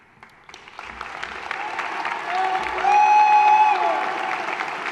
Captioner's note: applause, hollering